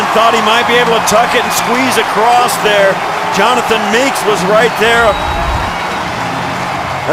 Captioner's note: whistle